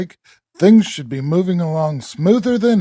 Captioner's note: laughs